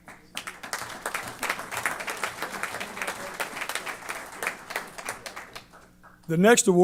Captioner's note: applause